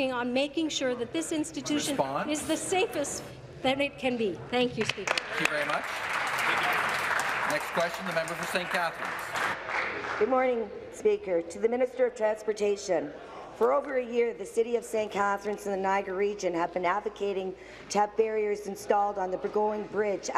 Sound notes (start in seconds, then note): 10.8 applause